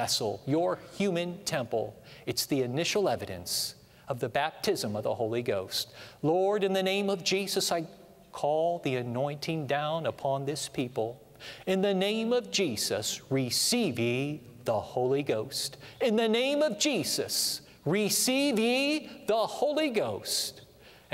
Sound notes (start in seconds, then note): none